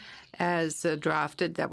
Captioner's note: speaking FRENCH